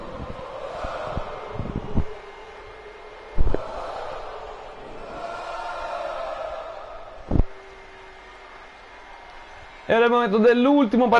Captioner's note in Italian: Applauso